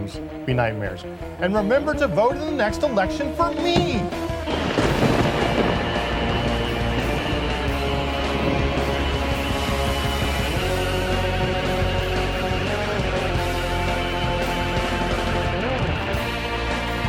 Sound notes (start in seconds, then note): 3.5 thunder and lighting cracking; 8.3 rock music